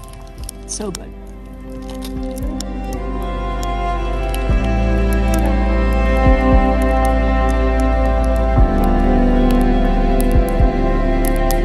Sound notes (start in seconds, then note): 2.0 quiet music; 6.1 sound of crackling fire